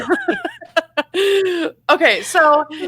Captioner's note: both laughing